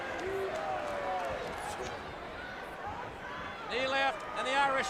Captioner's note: crowd chatter